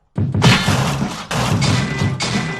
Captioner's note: gunshots